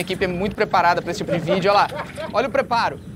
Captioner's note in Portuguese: risadas